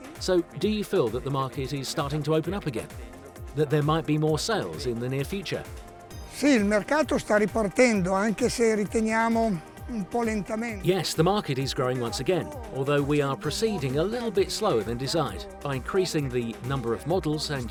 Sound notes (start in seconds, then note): 6.4 speaks Italian